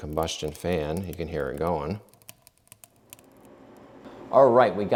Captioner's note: fire crackling